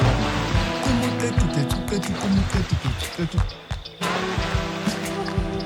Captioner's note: speaking in foreign language; birds chirping